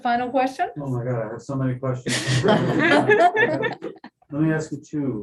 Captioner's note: laughter